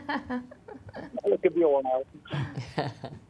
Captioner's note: voiceover